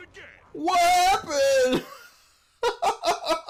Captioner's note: laughs